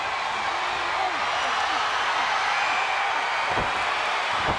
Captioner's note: crowd cheers